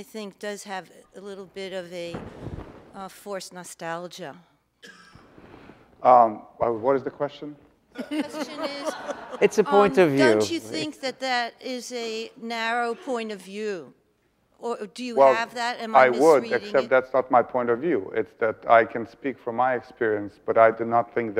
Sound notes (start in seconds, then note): 8.0 audience laughs